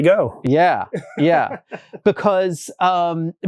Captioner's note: laughs